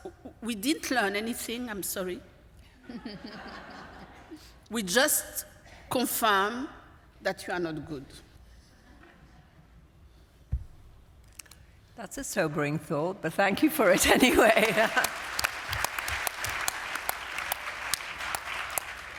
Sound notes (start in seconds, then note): 2.8 laughter; 14.2 applause